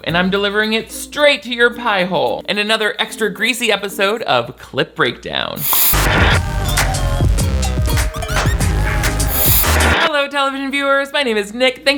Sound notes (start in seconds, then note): 5.6 static crackles; 5.7 discordant music